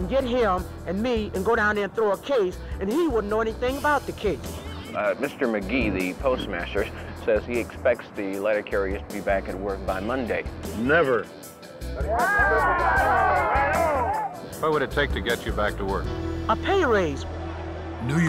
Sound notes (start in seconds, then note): 12.0 cheers